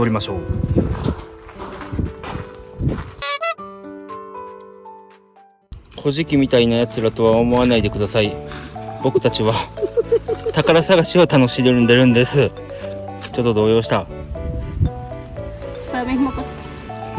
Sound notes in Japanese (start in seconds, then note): 9.0 笑い